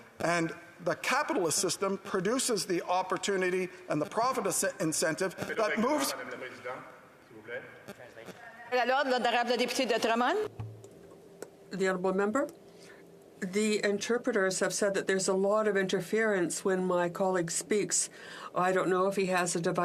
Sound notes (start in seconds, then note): 15.3 speaking French